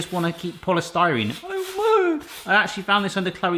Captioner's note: moaning